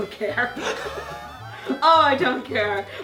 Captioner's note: laughing